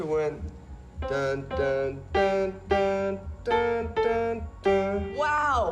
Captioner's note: hums "%*#le, %*#le, Little Star"